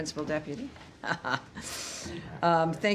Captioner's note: laughter